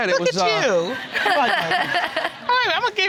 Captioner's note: laughing